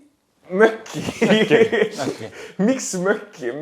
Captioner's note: laughs